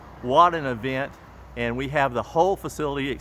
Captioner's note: um uh